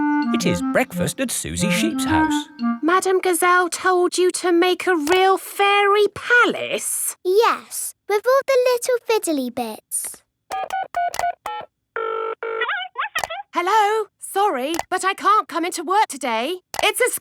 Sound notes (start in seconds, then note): 10.5 dials phone; 12.6 on phone